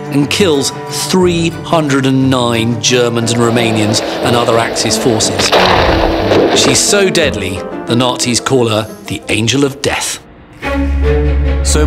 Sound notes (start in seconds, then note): 5.2 gun roars; 5.6 dramatic music; 10.2 dramatic music